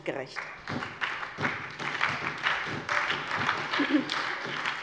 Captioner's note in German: Beifall bei der SPD